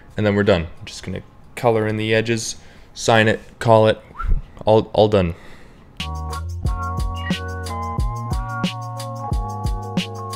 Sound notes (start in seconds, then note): 4.1 whistle